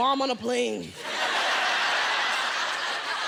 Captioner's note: laughter